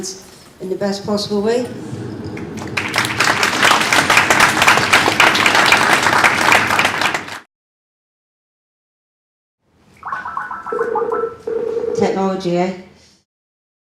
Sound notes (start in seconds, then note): 2.3 audience applause; 10.0 electronic beeping of skype call being made